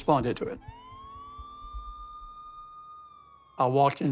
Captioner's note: sirens